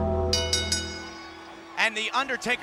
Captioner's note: bell ringing